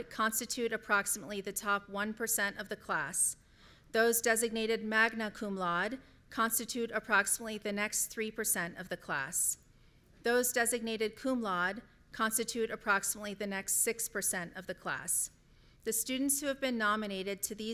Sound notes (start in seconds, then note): none